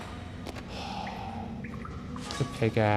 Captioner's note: deep sigh